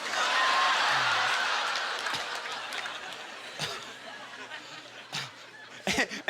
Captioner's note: scattered applause; audience laughter